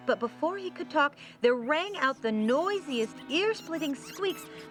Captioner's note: squeaking